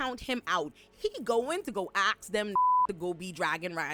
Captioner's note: beep